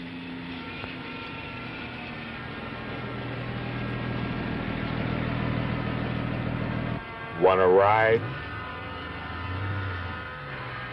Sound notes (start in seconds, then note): 0.0 engine